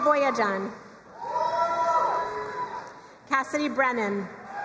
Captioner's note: crowd cheering and applauding; crowd cheering and applauding